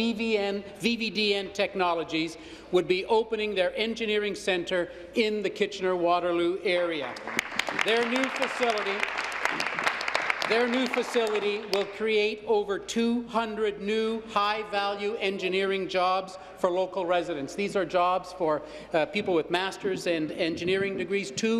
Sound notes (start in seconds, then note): 10.9 applause